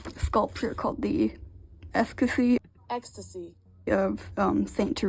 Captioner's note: robot voice of "ecstasy"